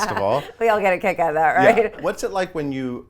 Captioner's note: laughs